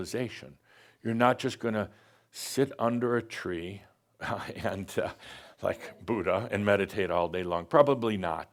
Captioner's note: chuckles